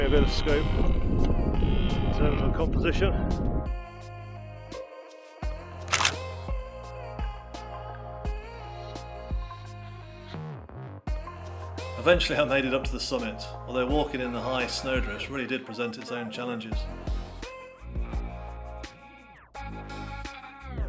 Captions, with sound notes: which will give me a bit of scope, in terms of composition. (shutter clicks) (mellow music) Eventually I made it up to the summit, although walking in the high snowdrifts really did present its own challenges. (mellow music)